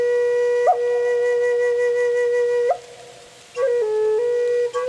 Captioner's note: sounds of wind rustling the plants